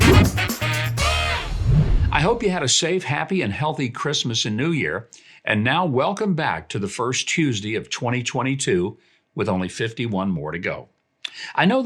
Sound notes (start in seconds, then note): 0.0 live jazz music; 1.4 air whooshing